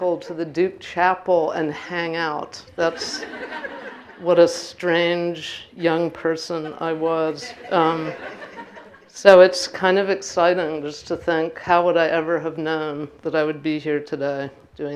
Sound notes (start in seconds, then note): 2.8 laughing